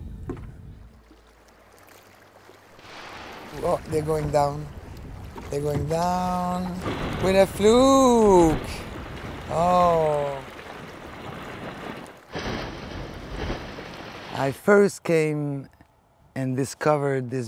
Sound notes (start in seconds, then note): 9.5 water splashes